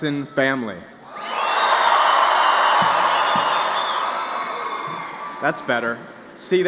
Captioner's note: louder cheers